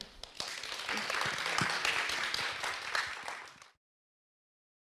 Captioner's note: people clapping